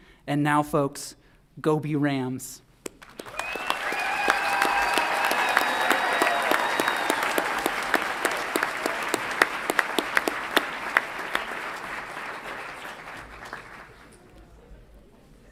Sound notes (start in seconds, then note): 3.4 audience applauds and cheers